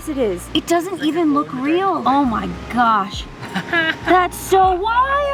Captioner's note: laughs